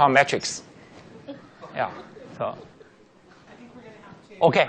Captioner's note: laughing